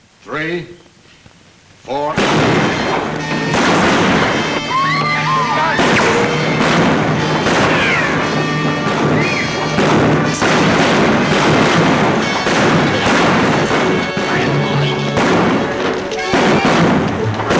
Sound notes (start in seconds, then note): 1.8 gun bangs; 3.3 guns bang; 5.2 women scream; 6.7 guns bang